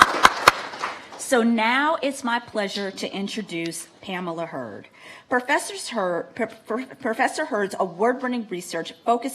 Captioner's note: applause